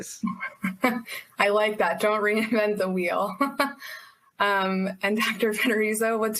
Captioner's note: chuckles